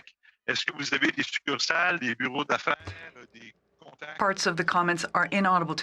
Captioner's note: speaking French